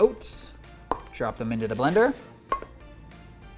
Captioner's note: container clattering